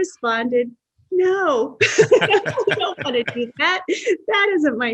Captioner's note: laughs